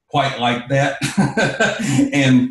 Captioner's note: laughs